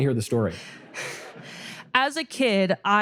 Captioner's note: audience laughter